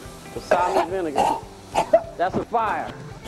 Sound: coughing

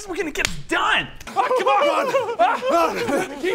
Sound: over-excited giggles

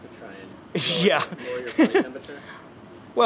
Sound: laughs

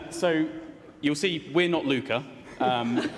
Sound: laughter

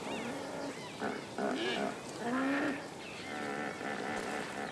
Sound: hippos grunting

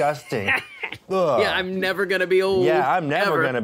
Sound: laughs

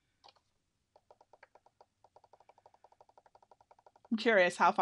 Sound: button clacking

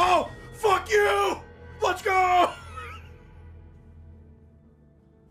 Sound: laughs

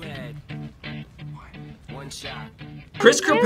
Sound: whispers

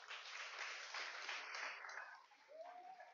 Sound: applause

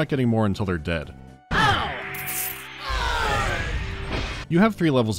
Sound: foes yell in unison

